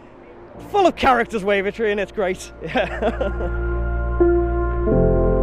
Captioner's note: laughs